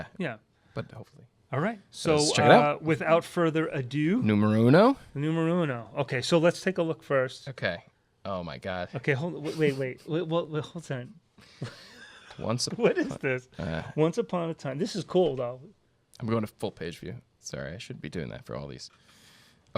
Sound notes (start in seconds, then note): 11.6 laughter